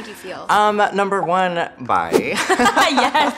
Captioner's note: laughing; chuckles